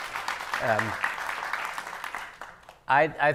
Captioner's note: audience applauding